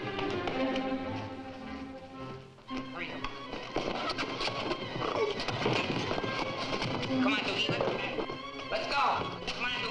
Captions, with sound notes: Hurry. (Chula groans) (bodies thudding) Come on, Dukie. Let's get out of here. Let's go! Come on, Dukie.